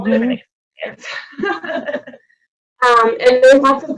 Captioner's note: laughing